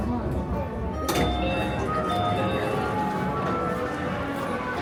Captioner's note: bells ringing